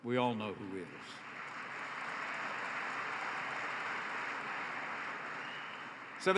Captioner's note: applause